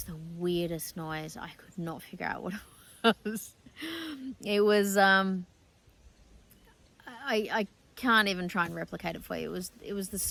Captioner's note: laughs